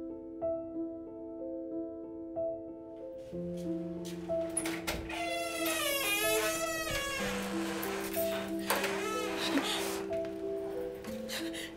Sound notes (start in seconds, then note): 4.4 door opening; 8.7 crying